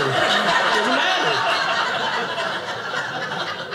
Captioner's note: audience laughing